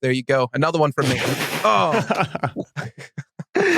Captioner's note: others chuckling